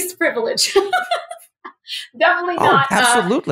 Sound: laugh

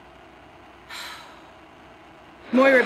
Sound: static

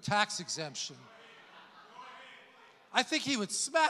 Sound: congregation laughs

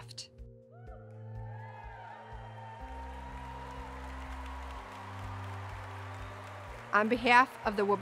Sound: applause

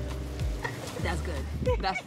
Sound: laughs

